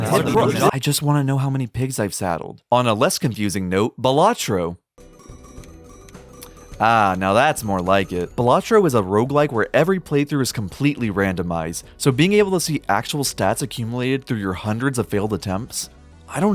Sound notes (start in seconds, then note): 5.1 dings from game audio